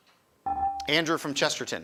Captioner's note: buzzer chimes